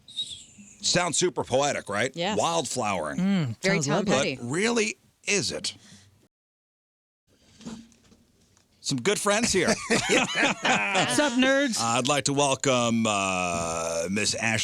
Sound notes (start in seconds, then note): 9.5 laughing